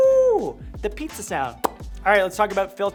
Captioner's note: lips popping